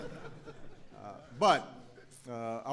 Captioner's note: laughter